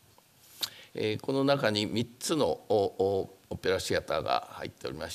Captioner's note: speaking japanese